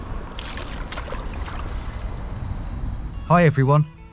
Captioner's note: water splashes